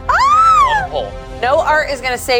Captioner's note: screams